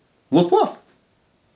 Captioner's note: imitating dog barking